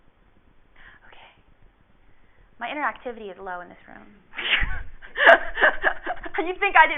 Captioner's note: laughs